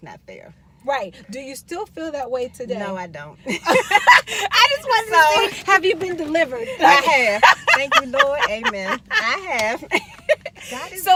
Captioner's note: laughing